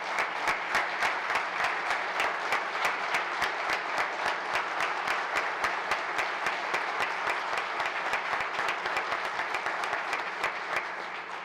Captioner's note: applause